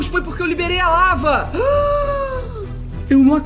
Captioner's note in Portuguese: do vídeo faz som de surpresa